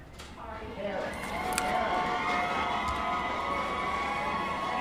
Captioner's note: loud cheering